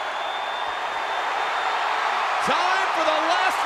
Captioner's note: crowd cheering